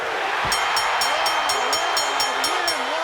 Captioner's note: bell ringing